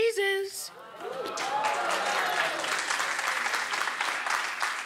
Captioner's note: audience applauds